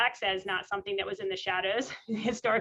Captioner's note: laughs